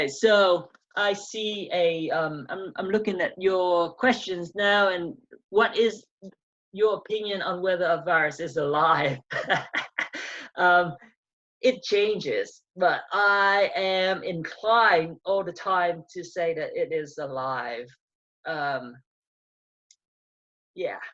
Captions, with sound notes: - So I see A. I'm looking at your questions now and what is your opinion on whether a virus is alive? (laughs) It changes. But I am inclined all the time to say that it is alive.